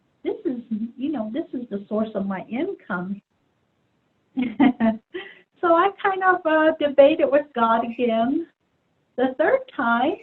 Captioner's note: laughs